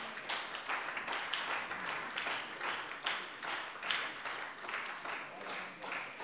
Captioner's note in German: Beifall bei der SPD